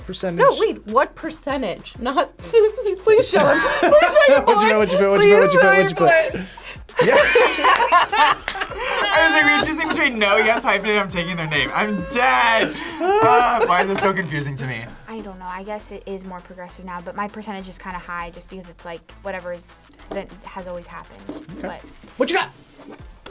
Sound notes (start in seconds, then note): 6.9 group laughs